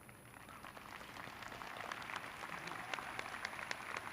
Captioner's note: graduates clapping